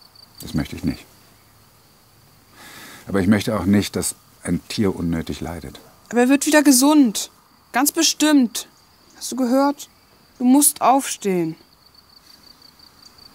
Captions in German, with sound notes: Das möcht ich nicht. Aber ich möchte auch nicht, dass ein Tier unnötig leidet. Aber er wird wieder gesund. Ganz bestimmt! Hast du gehört? Du musst aufstehen! (Grillenzirpen)